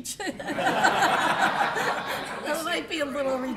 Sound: laughter

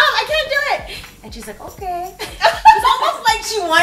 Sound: laughter

